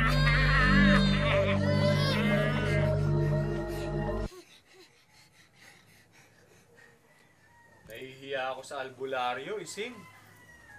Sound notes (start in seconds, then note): 4.1 both gasping